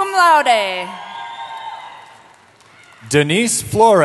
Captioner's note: cheering